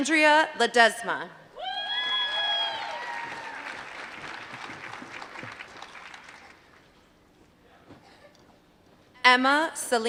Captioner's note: applause